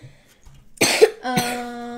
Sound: cough; cough cough

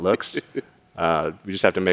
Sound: laughs

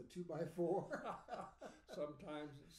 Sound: laughing

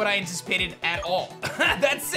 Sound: chuckles

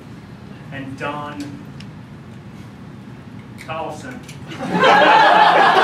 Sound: laughter

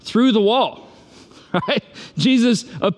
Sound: laughs

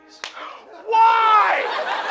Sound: slap

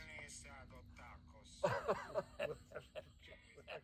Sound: laughing

